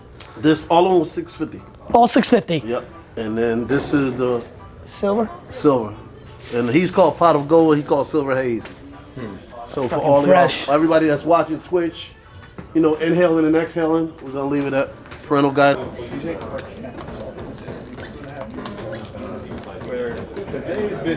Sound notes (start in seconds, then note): 16.1 mashing controller buttons